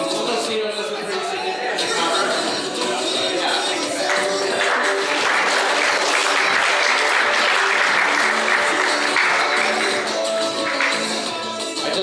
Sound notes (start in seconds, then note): 3.9 applause